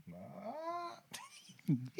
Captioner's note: non-english Speech